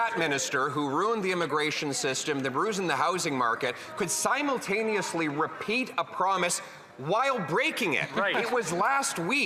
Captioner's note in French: voix de l'interprète